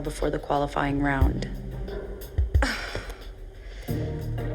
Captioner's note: sighs